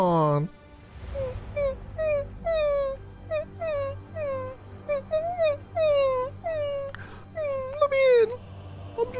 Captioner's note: whimpers like a puppy